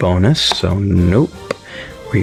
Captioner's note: inhales Oxygen